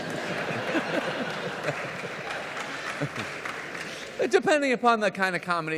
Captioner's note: audience laughs and applauds